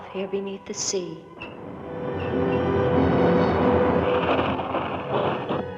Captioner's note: pulley squeaking